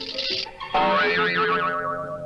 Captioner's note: boing!